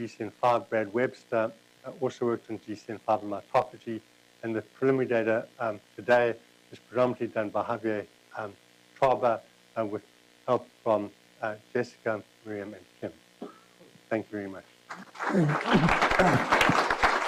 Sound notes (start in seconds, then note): 10.7 applause